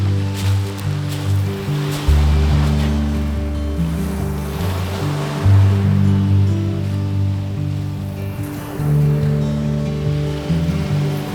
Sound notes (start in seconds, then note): 4.4 waves crashing loudly; 8.1 lighthearted music